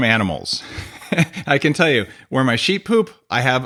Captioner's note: laughs